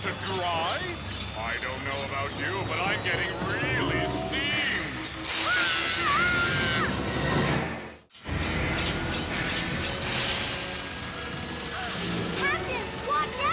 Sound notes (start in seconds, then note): 5.3 Captain Flamingo screams